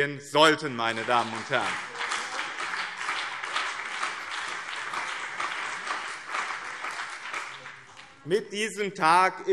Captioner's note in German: Beifall BÜNDNIS 90/DIE GRÜNEN und CDU